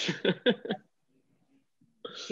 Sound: chuckling

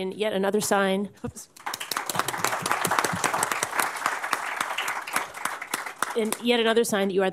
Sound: applause

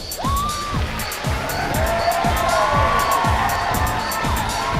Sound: cheering and clapping

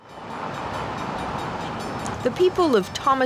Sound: train bell tolls

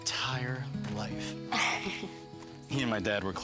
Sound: chuckling

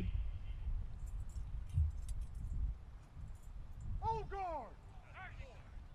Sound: soldiers shouting commands

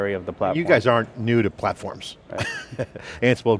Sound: chuckles

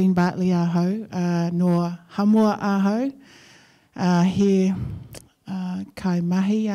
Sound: speaking in foreign language

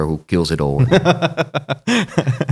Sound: laughter

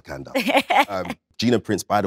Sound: Letitia laughs

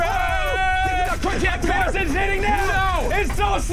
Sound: screaming

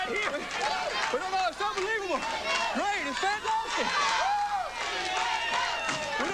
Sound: applause

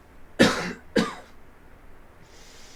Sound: coughing sound

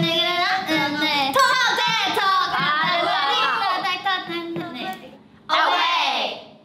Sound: bell rings; timer ticking

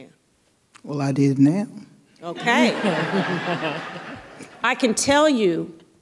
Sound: audience laughing

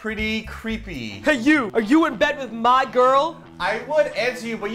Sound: imitating a man's voice

